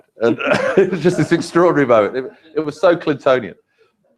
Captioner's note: laugh